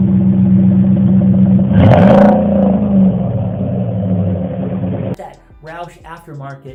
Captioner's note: exhaust roar